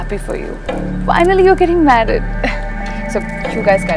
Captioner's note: Falguni laughs